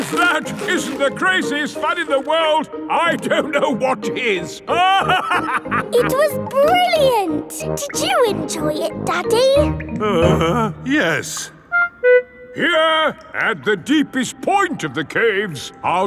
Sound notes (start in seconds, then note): 4.7 laughing; 10.5 groans